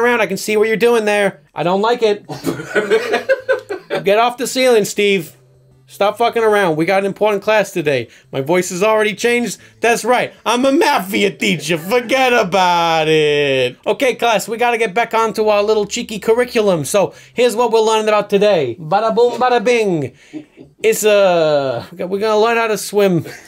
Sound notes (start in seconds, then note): 2.5 audience laughing